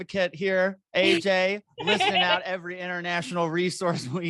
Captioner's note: AJ laughs